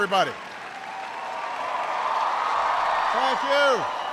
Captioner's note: audience cheering